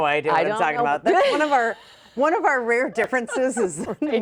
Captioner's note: laughing